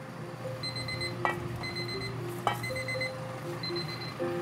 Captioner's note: alarm ringing